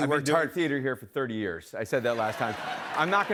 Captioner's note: laughter